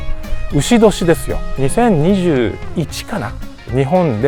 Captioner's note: in Italian